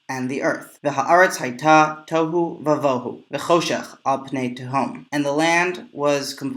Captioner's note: Hebrew